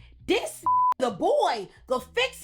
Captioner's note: beep